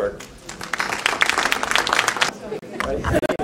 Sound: applause

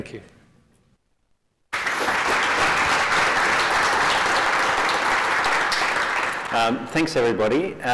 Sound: applause

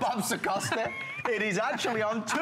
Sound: laughter

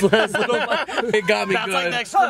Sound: laughing

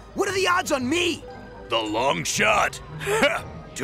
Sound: chuckles

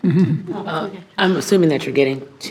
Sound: board laughs

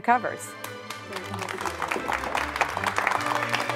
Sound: applause

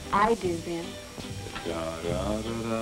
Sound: humming wedding march

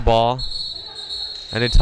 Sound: whistle blowing

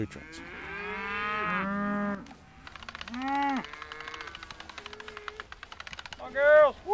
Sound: cows mooing

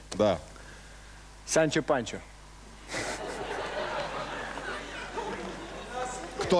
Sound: clap; laugh

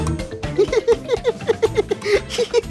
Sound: laughing

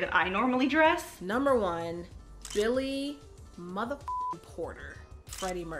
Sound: beep

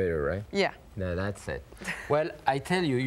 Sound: chuckling

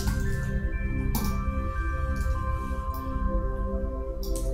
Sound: keys clacking

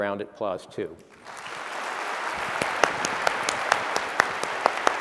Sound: applause

